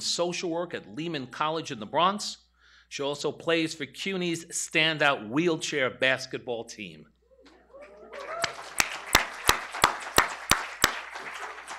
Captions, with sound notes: in social work at Lehman College in the Bronx. She also plays for CUNY's standout wheelchair basketball team. [ Applause ]